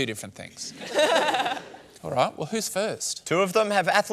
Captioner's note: laughter